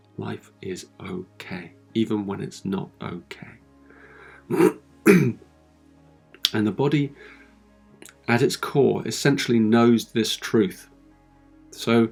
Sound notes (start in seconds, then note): 3.3 clears his throat